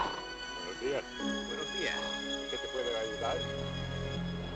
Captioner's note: speaking in Spanish